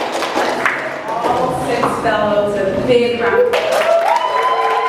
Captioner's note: applause continues